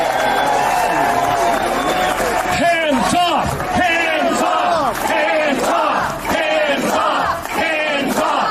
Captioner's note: cheering; chanting